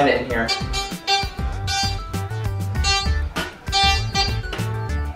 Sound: metal detector beeps

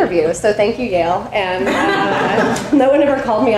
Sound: audience laughing

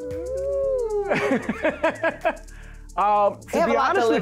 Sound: laughs

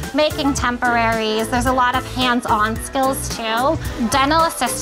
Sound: none

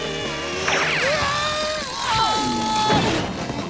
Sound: air whistling; screaming

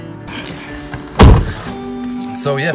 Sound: door slamming

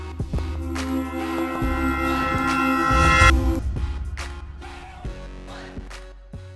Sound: sound of CB Aviation extro logo

